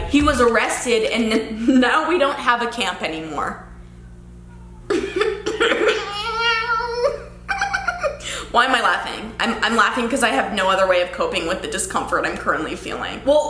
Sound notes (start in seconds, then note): 4.9 laughing